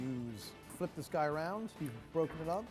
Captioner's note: utensil scraping